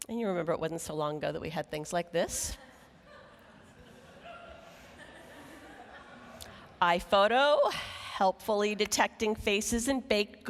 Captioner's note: laughing